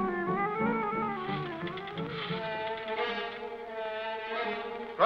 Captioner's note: telephone dialing